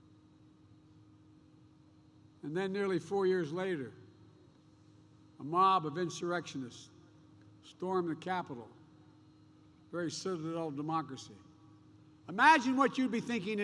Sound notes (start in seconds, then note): none